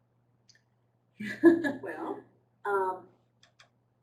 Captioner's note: laughter